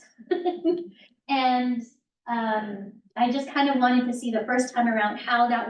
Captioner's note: laughs